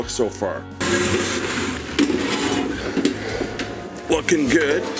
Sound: pan scraping

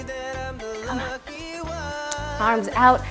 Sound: whispers

